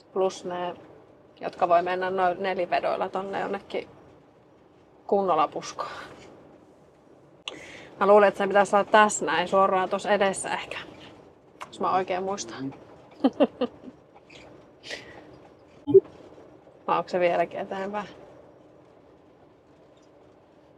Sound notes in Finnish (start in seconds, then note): 13.2 naurua